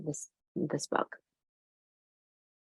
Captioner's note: pause